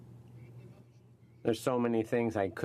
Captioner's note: speaking French